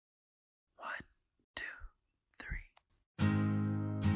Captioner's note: whispers